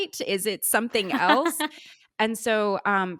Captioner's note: laughing